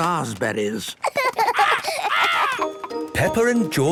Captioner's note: laughs